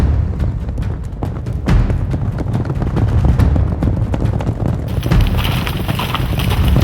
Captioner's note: suspenseful music; hooves thunder